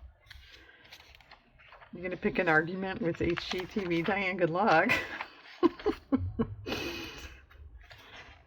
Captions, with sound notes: you gonna pick an argument with HGTV, Diane-- good luck (laughs)